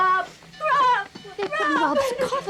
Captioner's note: bell dinging